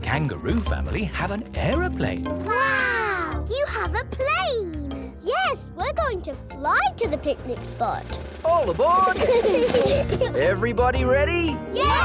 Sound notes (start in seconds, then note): 9.0 children giggle